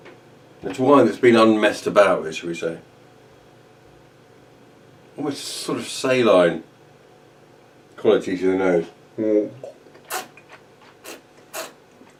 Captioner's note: slurping